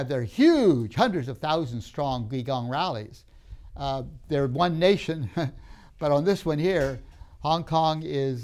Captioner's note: laughs